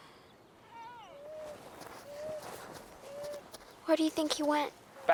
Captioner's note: dogs whining